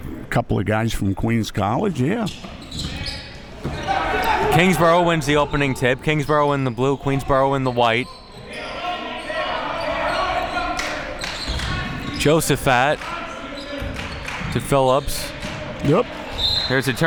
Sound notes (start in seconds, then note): 10.0 yelling; 16.3 whistle blowing